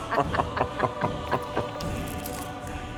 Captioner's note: evil laughing